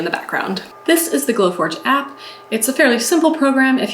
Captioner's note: machine humming